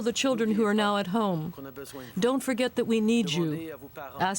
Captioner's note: speaking french